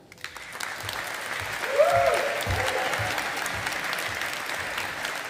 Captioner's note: audience applauding